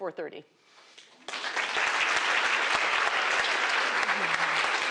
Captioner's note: applause